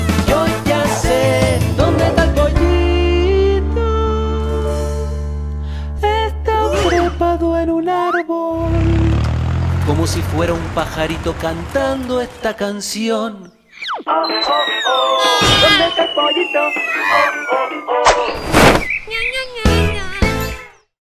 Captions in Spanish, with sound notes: ¡Yo ya se! Donde esta el pollito.... Esta trepado en un árbol...(Sonido de tractor) Como si fuera un pajarito cantando esta canción ¡Oh oh oh! (Grito) ¿Dónde está el pollito? ¡Oh oh oh!...ña ña ña ña